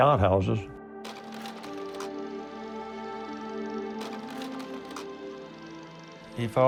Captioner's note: sound of projector